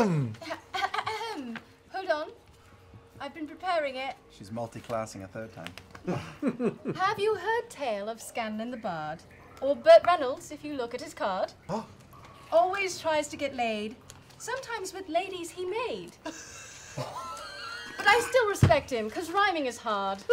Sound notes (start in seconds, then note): 0.0 false throat clear; 6.0 laughter; 16.3 shocked group laughter